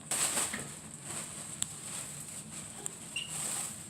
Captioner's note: crackling of plastic bag